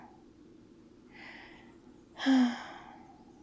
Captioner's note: sighs